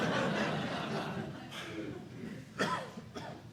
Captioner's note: laughter